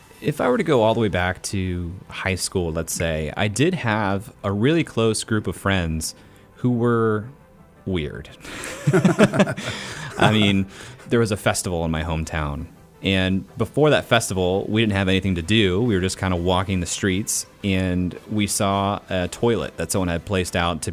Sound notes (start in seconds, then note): 8.5 laughs